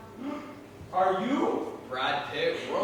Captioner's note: gasps